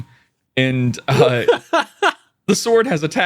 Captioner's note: laughing